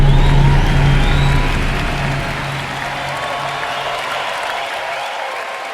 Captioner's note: audience cheering and applauding